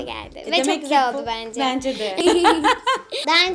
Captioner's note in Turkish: gülüşmeler